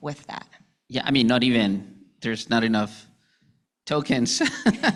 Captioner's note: laughing